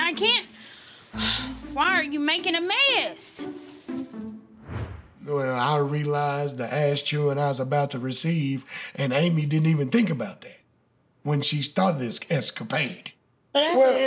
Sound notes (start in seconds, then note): none